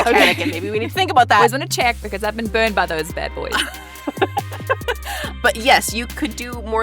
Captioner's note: chuckles